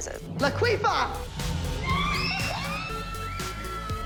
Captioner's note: girls squealing